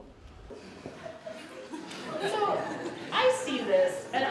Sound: laughter

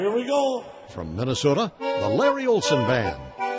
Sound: voiceover

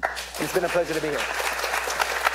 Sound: applause

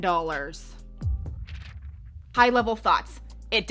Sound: intense music; papers shuffling

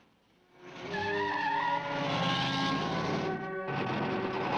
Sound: wheels screeching

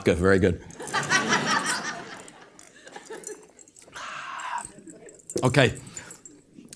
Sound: laugh

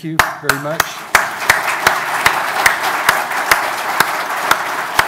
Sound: audience applauding

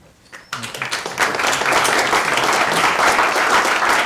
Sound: audience applauding

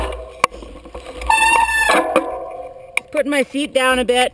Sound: bike screeches

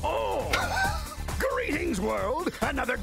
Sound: astonished laughter

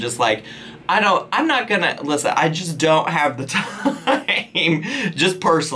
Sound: laughs

